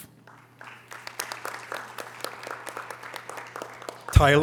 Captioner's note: audience applause